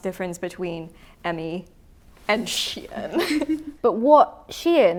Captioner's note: chuckles